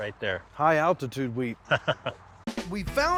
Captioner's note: laughing